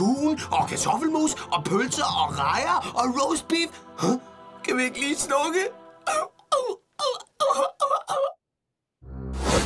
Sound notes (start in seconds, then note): 6.0 crying